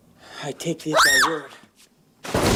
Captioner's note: Juliet screams